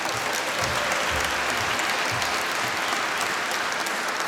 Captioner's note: applause